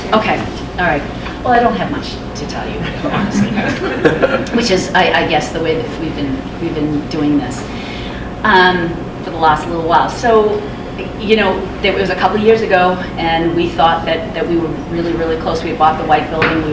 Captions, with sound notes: - Okay, well I don't have much to tell you honestly. (crowd laughs) Which is I guess the way that we've been doing this for the last little while. It was a couple years ago and we thought that we were really, really close. We bought the white building,